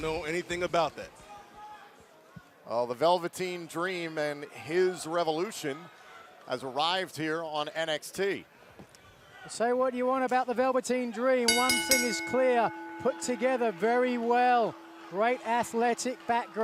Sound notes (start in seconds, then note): 11.5 bell ringing